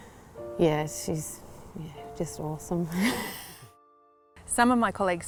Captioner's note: laughs